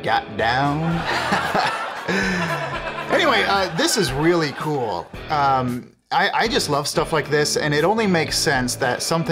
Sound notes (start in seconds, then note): 0.8 Audience laughing at Reese's shame